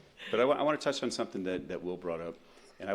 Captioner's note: laughter